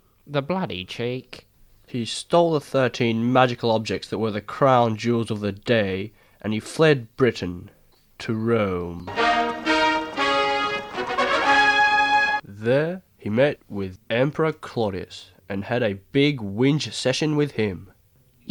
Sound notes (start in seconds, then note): none